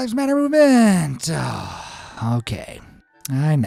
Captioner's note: sighs